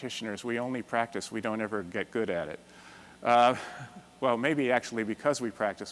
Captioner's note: chuckles